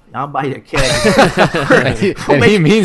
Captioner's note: laughter